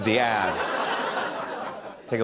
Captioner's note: laughter